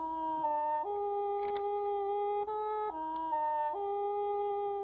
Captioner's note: clicks